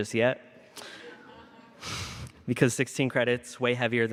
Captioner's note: laughter